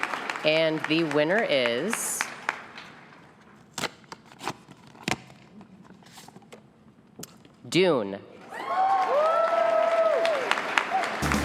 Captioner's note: applause